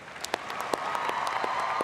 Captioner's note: applause